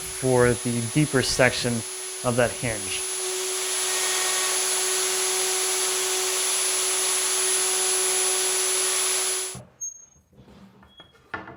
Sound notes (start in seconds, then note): 3.5 machinery whirs